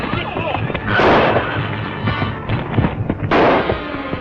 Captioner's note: gunshots